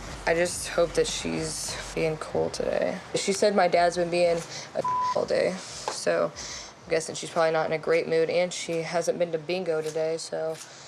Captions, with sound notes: I just hope that she's being cool today. She said my dad's been being a (beep) a all day, so I'm guessing she's probably not in a great mood. And she hasn't been to bingo today, so.